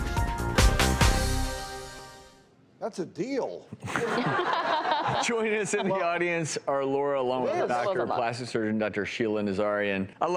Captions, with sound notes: - That's a deal. (laughing) - Joining us in the audience are Laura, along with her doctor, plastic surgeon Dr. Sheila Nazarian.